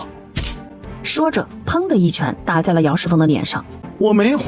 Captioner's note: wham!